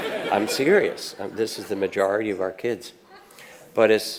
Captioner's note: audience laughs